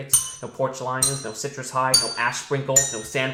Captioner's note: bell dings; bell dings